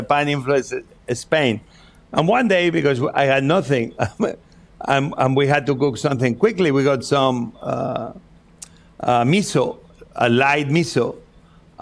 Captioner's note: laughs